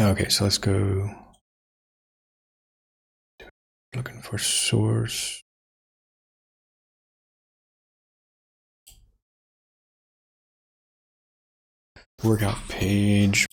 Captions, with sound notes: Okay, so let's go. (Blank Audio) Looking for source. (Blank Audio) Workout page.